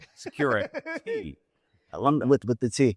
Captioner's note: laughter